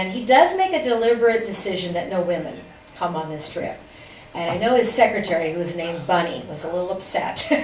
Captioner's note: laughs